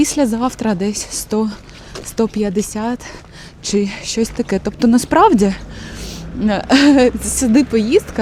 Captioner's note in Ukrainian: сопіння